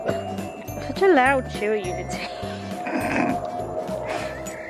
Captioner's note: laughs